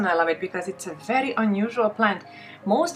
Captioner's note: none